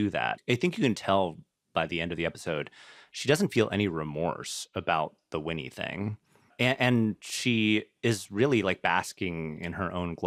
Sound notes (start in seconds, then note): none